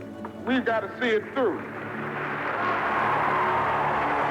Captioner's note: audience applauding